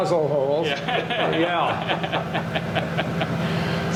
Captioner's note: laughter